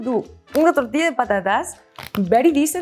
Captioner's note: speaks in Spanish